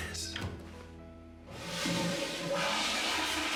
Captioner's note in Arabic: تدفق المرحاض